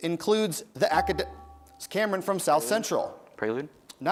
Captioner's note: bell rings